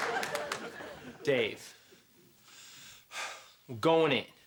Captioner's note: sighs